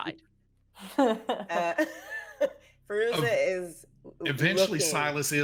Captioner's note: people chuckling